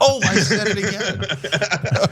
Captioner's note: laugh